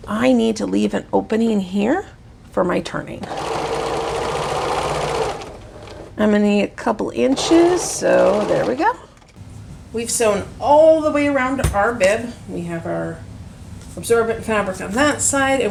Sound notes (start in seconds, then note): 3.2 sewing machine whirring